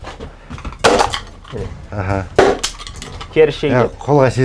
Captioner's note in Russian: звуки казахских ударов